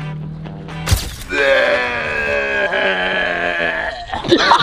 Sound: gags

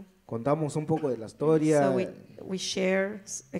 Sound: speaks in foreign language

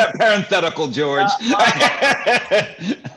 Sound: laughter

